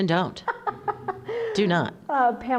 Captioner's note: laughter